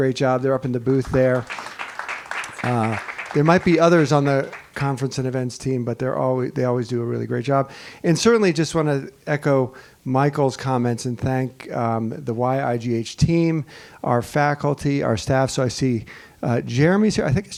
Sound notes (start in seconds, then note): 0.9 attendees clapping